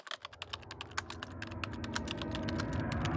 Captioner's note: typing